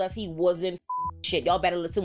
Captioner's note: beep